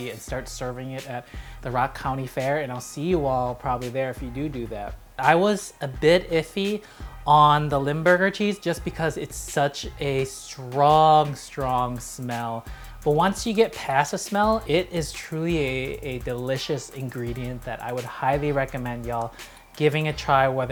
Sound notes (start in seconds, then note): none